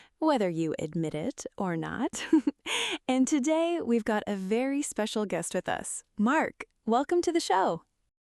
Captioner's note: chuckles